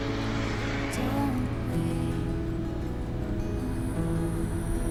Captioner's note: traffic zooming